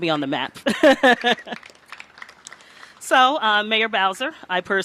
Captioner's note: applause